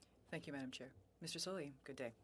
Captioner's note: speaking French